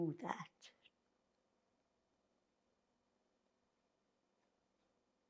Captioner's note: pauses 6 seconds